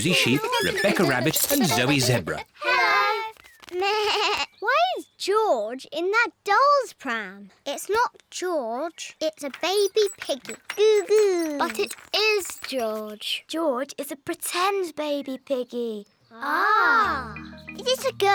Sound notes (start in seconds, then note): 4.3 bleats